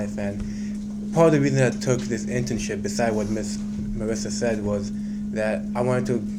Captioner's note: none